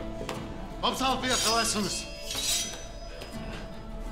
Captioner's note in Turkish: Kılıç çekme sesleri